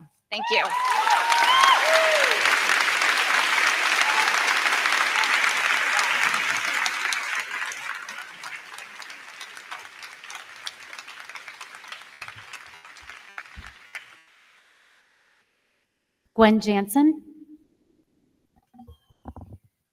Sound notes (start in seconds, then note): 1.4 crowd cheering; 1.4 crowd clapping